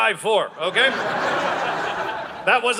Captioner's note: audience laughing